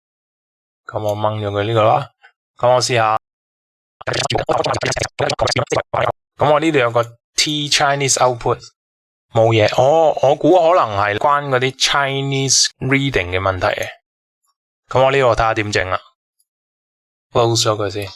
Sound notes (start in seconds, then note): 4.0 fast-forward